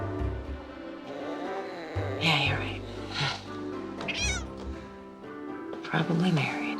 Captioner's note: cat purrs